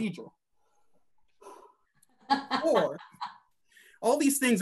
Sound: breathing

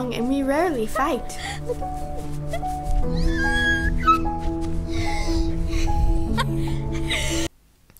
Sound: both laugh

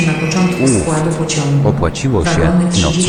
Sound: railway Station Announcement

